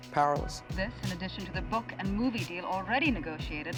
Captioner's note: voiceover